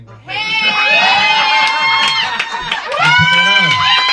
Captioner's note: audience cheering